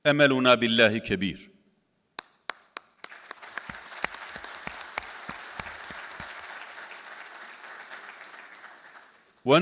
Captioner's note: audience clapping